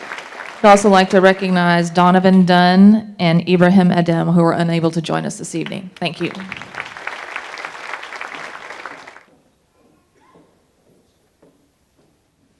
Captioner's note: applause